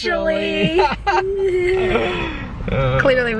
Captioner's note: laughter